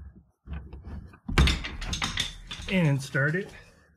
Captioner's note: metal falls